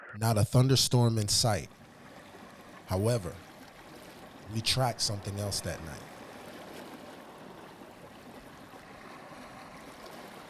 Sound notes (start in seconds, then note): 7.0 water burbling